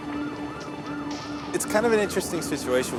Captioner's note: sirens blaring